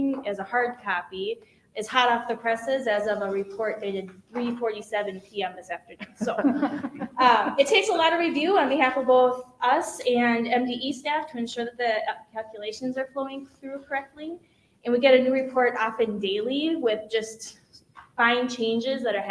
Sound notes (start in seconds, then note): 6.0 people chuckle